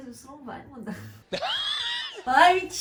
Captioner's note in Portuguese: Risos